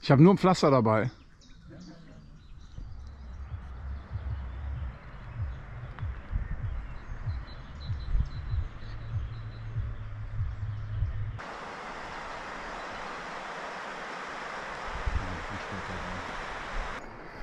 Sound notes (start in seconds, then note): 3.2 birds chirping